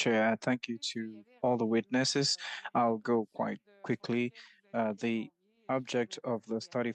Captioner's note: speaking French